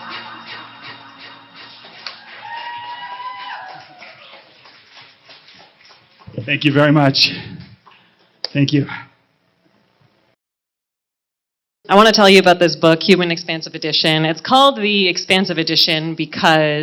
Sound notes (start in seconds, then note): 1.8 applause